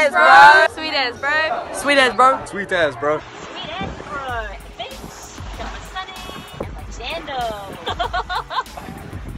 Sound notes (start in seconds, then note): 7.7 laughing